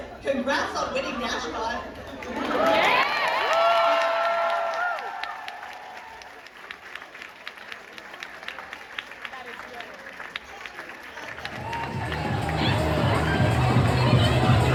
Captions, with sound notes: Congrats on winning DashCon! (crowd cheers) That is great.